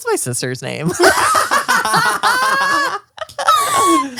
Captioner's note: all laugh